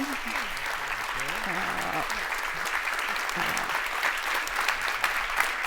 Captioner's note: audience applauds